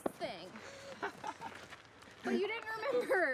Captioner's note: laughter